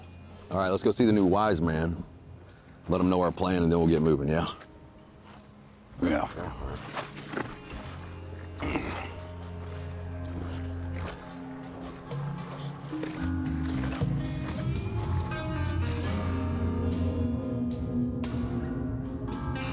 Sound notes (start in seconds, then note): 9.8 footsteps thudding; 16.4 somber Western music